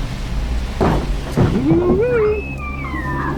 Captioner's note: woo Woo's as screaming intensifies